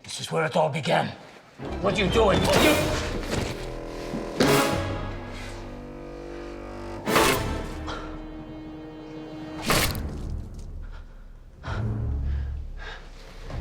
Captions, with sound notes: This is where it all began. What're you doing-- (Carl gasps)